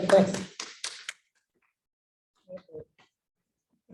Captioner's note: applause